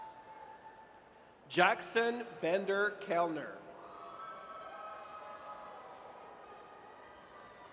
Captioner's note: audience cheers